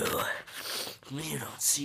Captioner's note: sniff